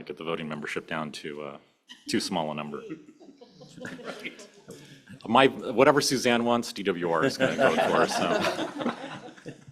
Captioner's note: laughter